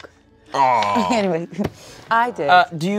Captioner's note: laughs